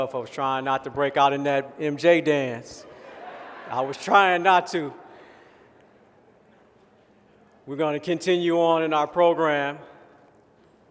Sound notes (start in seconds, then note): 2.8 laughter